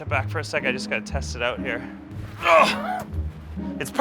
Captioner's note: grunts